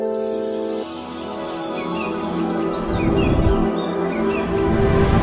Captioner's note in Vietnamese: chuông